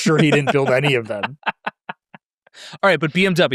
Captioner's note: laughs